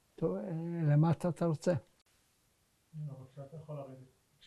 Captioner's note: hebrew